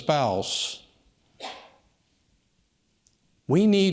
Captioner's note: audience member coughs